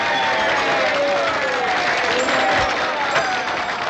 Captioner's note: cheers and applause